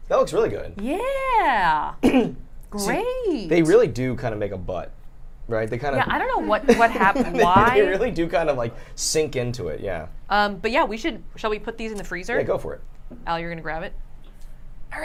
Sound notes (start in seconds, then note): 6.5 laughter